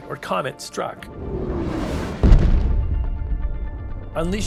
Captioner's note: loud blast